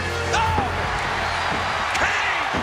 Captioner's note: audience cheers